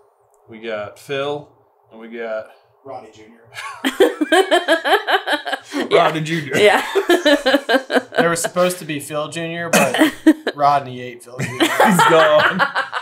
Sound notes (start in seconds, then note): 3.6 laughter; 7.3 laughing